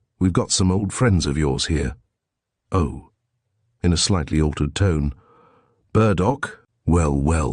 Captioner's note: in a slightly altered tone